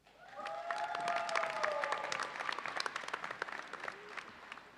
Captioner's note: audience applauds